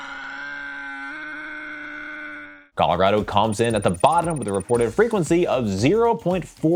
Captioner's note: person screaming